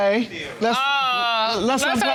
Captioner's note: judge dana exclaims